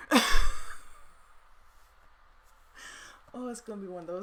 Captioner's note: laughs